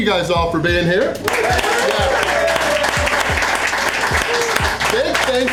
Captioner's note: crowd clapping and cheering